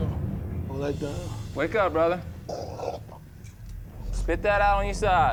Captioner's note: coughs